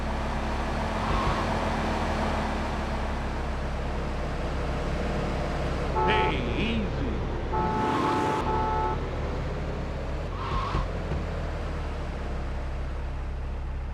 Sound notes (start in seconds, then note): 3.5 muffled yelling; 7.4 horn honking